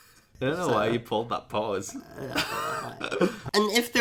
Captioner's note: laughs; laughs